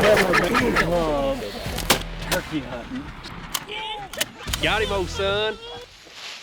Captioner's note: gun cocks; hunters laugh